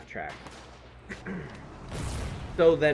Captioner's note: clears throat